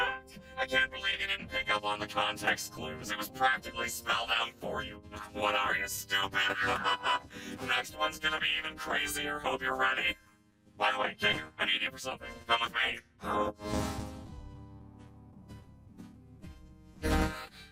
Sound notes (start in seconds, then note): 6.4 laughs